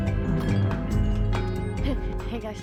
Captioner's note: bells jingle